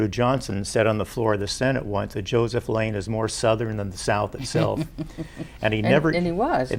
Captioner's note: chuckles